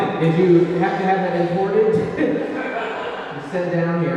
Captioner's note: laughs